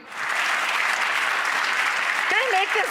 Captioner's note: audience clapping